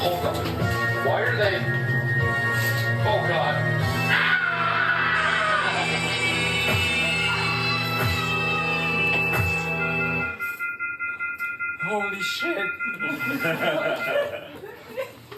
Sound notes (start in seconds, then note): 4.0 Phone Guy screaming & dying; 10.3 phone beeping, disconnected